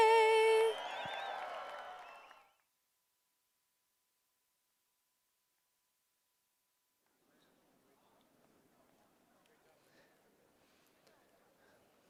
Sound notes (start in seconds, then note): 2.6 applae